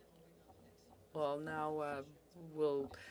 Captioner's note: speaking French